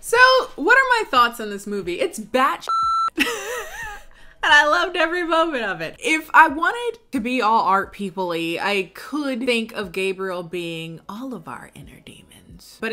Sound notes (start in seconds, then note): 2.6 beep